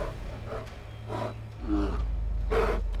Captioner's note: bear panting, snarling; breathing raggedly